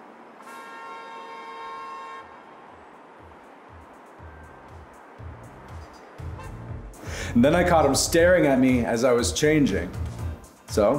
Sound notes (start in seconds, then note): 0.1 cars honking; 3.2 upbeat electronic music